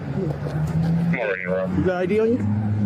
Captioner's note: radio chatter